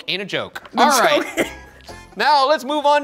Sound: laughing

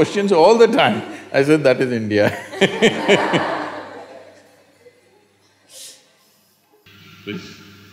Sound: laughter

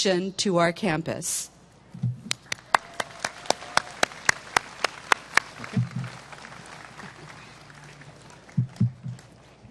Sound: applause

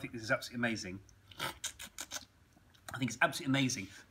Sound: slurping

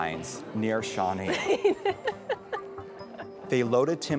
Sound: laughing

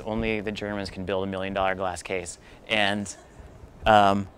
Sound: laugter

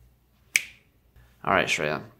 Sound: snaps fingers

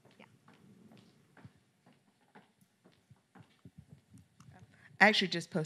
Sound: footsteps clacking

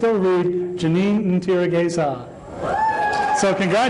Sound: applause

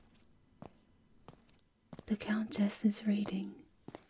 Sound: whispering to you

